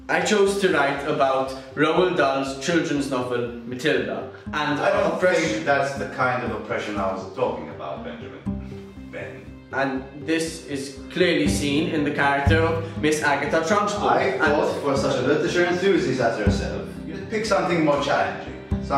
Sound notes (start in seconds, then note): none